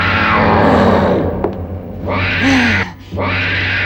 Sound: grunting

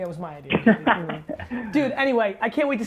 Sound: laughing

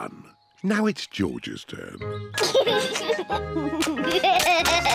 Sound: chuckles

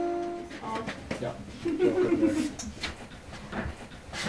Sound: chat and laughter in the background

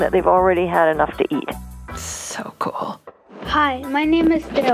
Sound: none

